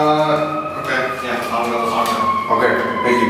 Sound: siren blaring in the background

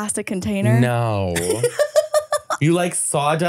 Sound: laughing

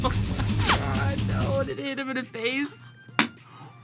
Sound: both laugh; rock music; laughs

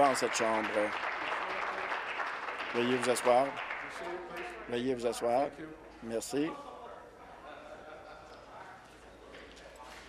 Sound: applause

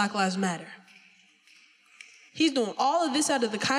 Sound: finger snapping

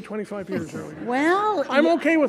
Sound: audience laughing

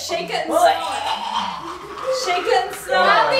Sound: gags

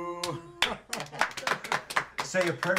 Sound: family applauding

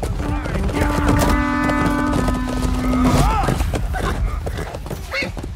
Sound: war horn

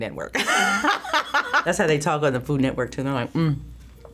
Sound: laughs

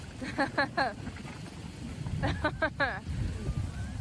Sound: laughing

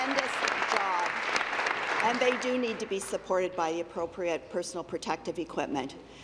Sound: applause

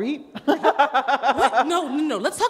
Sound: laughter

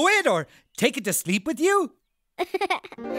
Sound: giggling

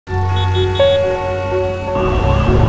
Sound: honking; sirens

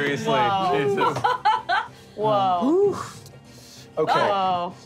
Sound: laughing

